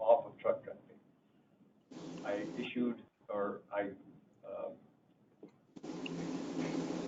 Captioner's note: hissing sound drowns out speaker